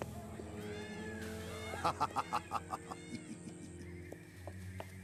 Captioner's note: evil laughter